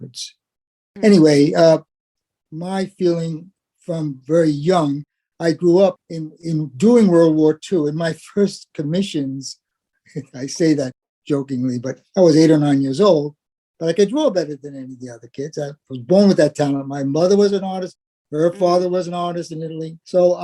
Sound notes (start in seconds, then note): 10.2 laugh